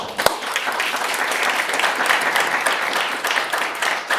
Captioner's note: audience applauding